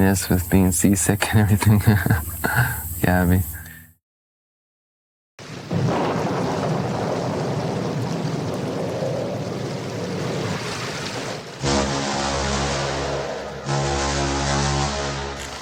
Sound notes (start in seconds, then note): 5.4 wind, thunder; 11.6 ship horn